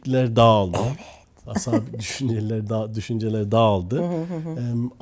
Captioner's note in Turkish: homurdanır